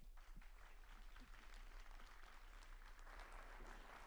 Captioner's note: audience applauding